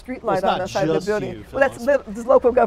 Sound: laugh

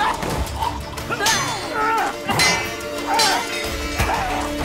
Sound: gags; grunting, swords clanging

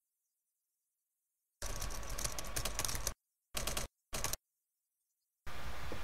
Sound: having fun with audio special effects - typing sounds

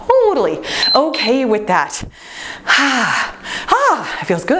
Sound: timer beeps

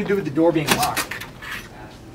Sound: door clicks open

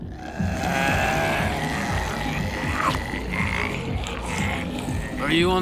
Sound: growling

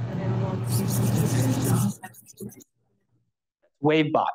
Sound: screaching

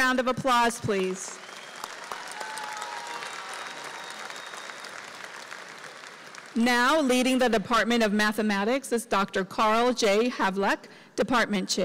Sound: applause

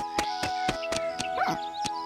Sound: birds chirping

